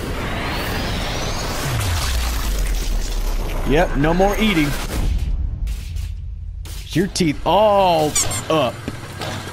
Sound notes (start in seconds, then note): 3.5 radio going haywire